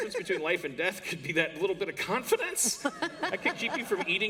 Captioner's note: laughter